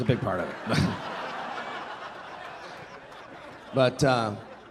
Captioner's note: audience laughing